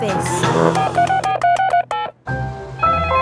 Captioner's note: beeping